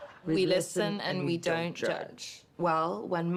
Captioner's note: none